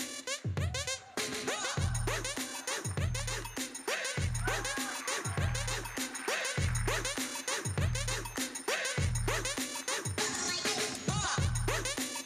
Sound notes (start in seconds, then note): 3.6 audience applauding; 9.4 hip hop music